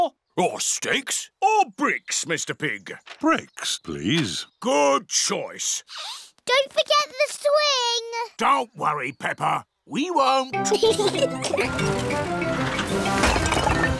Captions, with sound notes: -Or sticks -Or bricks, Mr. Pig? Bricks, please. Good choice. Don't forget the swing. Don't worry, Peppa. We won't. (BOTH GIGGLING)